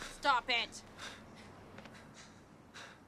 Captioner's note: footstep